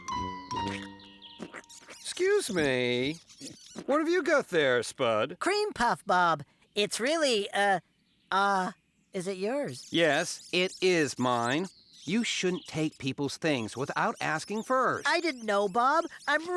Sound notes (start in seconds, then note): 0.4 squeak Squeak Squeak; 1.4 slurp, Slurp